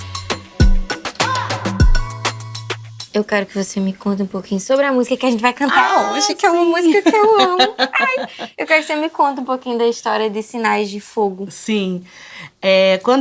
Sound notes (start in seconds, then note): 7.3 cheers